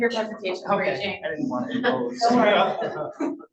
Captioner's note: laughs